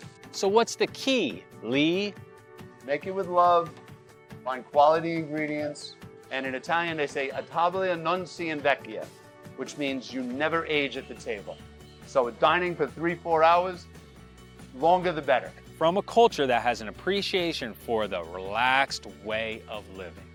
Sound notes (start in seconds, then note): 7.6 speaks Italian